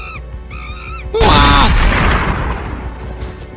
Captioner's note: gun shot